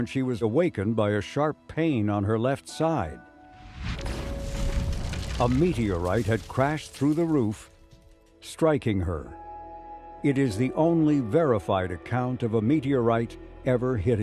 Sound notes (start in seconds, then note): 3.6 meteorite crashing through roof